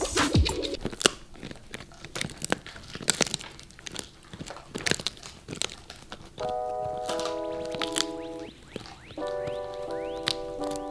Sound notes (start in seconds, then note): 1.3 Kokoro crunching; 6.6 soft electronic music